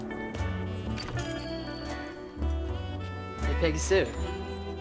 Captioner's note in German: Glocke klingelt